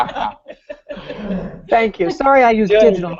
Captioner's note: laughter